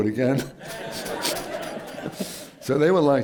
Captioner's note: laughter